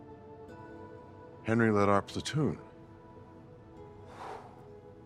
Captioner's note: gentle music; sighs